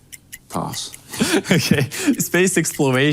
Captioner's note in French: rires